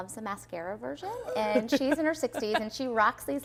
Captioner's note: laughing